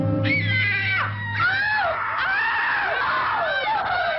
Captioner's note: girls screaming